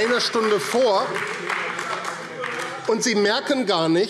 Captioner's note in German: Beifall AfD